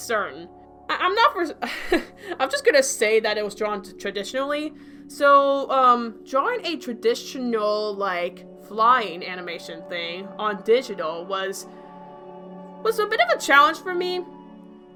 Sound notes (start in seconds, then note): 1.6 chuckles